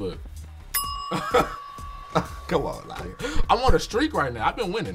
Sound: laughs

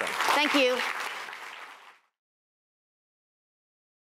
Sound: applause

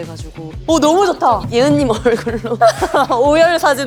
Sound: ending with crying cutely

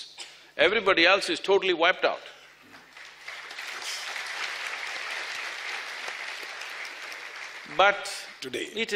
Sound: applause

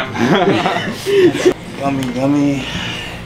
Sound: laughing

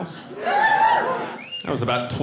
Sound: audience cheering

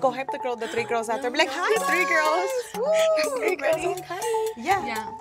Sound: laughs

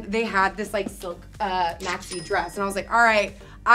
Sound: cash register ringing

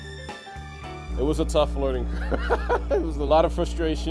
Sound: laughs

